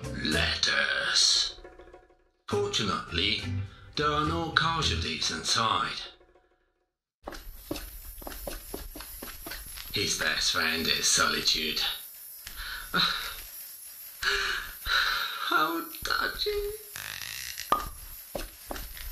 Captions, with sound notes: letters. Fortunately, there are no casualties in sight. His best friend is solitude. (sighs) Uhhhh, Uhhhh, (sighs) (sighs heavily) how touchy...